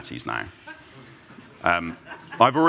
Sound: laughter

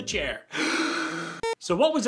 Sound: comical deep breath

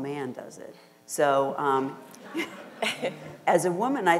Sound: audience and panel laughter

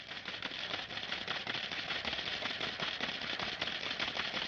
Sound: machine clicking

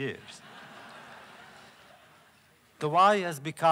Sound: laughter

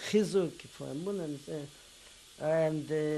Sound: non-english

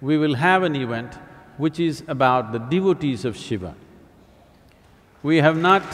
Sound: applause

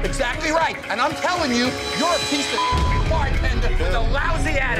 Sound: beep

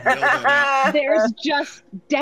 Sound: group laughing

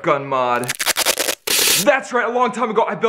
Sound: tape unsticking

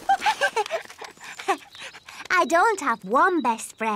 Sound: giggles

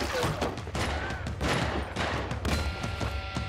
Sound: gunfire continues

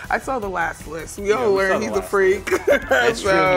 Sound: laughs

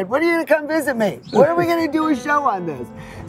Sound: laughs

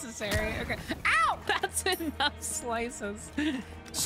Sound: laughing

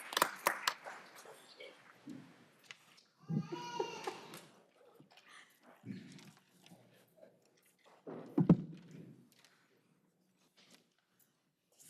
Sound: applause

